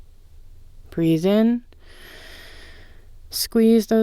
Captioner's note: inhale